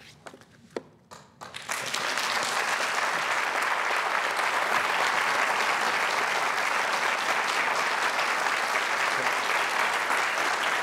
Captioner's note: applause